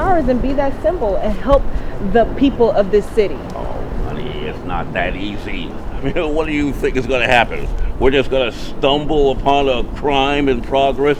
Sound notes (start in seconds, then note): 3.6 laughing